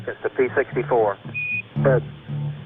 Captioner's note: voiceover